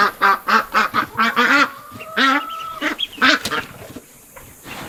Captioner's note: ducks quacking